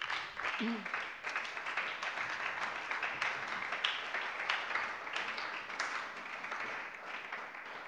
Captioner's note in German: Beifall bei der SPD